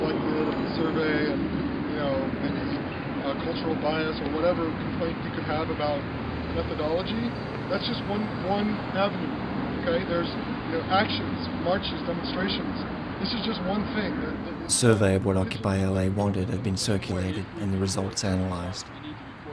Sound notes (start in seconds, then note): 14.5 voiceover